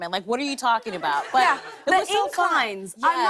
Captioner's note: laughter